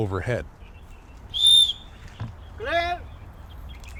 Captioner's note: whistle blows